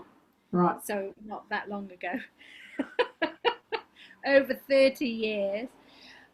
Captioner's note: laughs